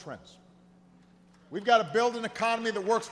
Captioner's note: applause